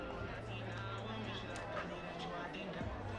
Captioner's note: crowd chattering